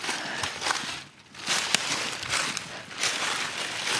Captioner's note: leaves crunching